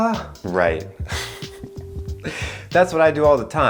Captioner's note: laughs